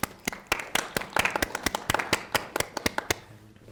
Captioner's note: people clapping